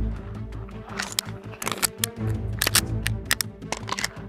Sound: suspenseful music; gun clicking

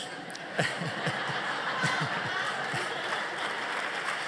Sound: laughter; applause

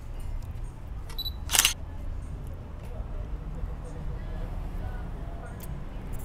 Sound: camera shutter clicking

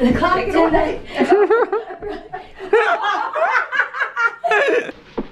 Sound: laughter

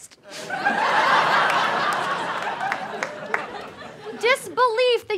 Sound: audience laughter

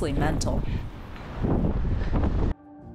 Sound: strong winds

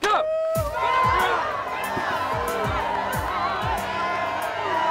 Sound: crowd cheering

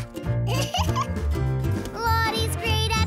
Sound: Fig giggles

